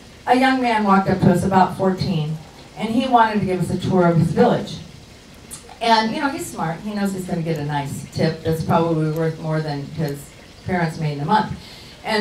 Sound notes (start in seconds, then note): none